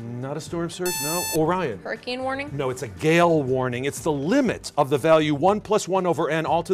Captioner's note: buzzer